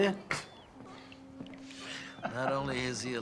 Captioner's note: chuckling